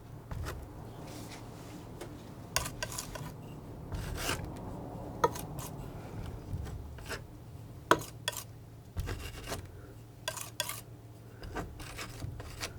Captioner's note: scratching